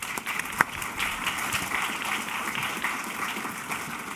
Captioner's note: applause